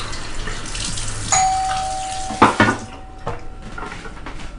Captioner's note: doorbell ringing